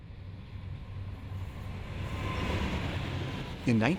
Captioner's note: train whirring